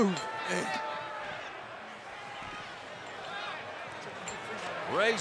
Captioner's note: fans chattering